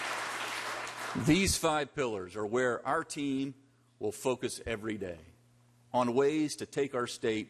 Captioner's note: applause